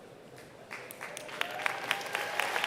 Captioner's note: applause